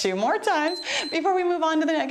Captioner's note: timer beeps